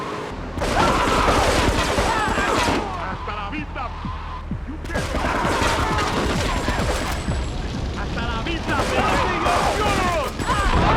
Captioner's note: sirens wailing